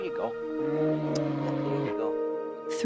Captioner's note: growling bear and chatting to the bear